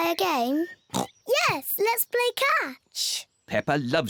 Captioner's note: oinks